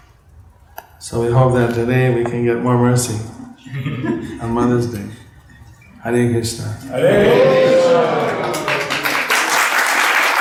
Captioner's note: applause